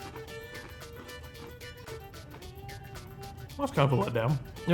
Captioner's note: chip crunching